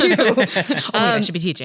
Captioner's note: laughs